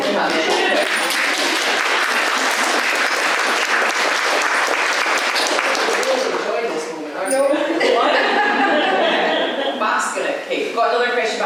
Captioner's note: applause